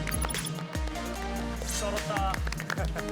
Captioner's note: not shouting but giving an applause